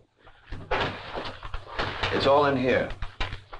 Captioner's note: envelope rustling